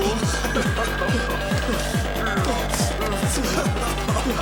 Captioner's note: Night whimpering; Thug laughing